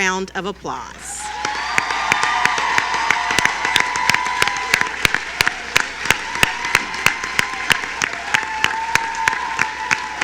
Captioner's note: cheering